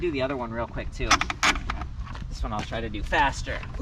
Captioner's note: metal squeaking